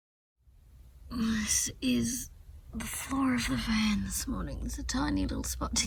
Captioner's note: sounding slightly sleepy